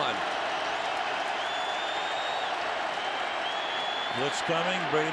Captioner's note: cheering